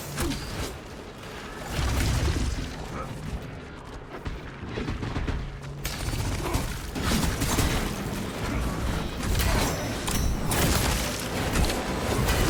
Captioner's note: gunfire